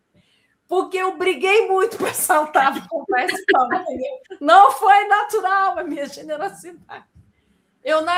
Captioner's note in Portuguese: risadas